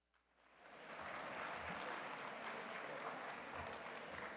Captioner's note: applause